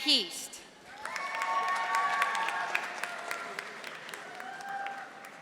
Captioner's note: audience applauding